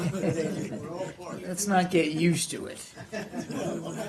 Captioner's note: laughter